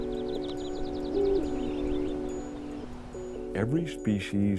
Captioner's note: birds chirp; owl hoots